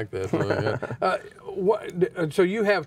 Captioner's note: laughing